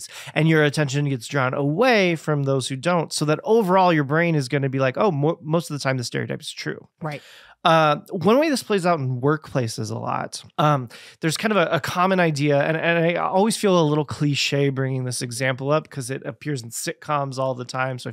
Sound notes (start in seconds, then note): none